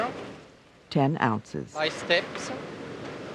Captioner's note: voiceover